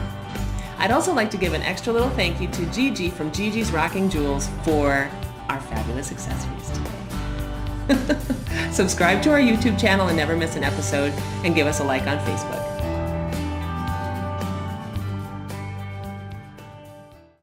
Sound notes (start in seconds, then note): 7.8 laughs; 13.5 upbeat music